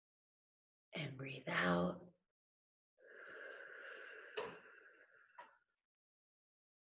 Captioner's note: exhaling